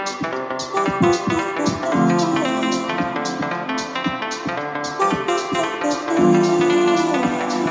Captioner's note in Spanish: tarareando